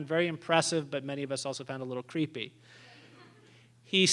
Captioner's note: laughter